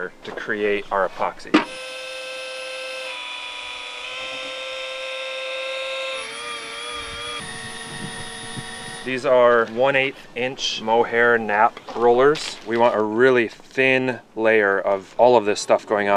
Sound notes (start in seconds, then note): 1.6 drilling